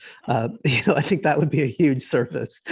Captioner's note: giggling